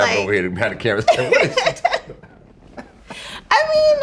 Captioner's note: laughing